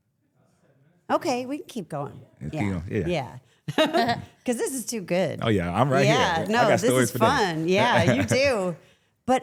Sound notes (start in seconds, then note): 3.7 laughs